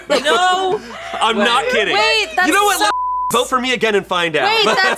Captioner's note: beep